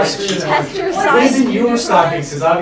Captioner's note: talking